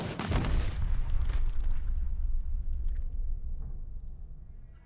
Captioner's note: pistol booming; explosion booming